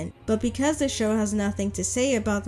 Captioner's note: none